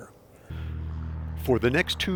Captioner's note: plane engine whirs; voiceover